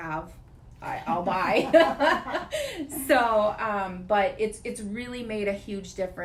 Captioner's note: laughing